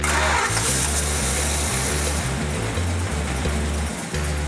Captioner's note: upbeat music; engine roaring